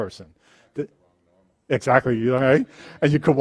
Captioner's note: voiceover